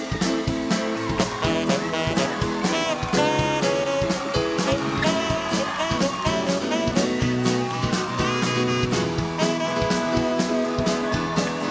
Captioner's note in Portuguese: aplausos